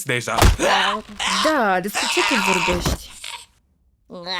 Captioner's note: gagging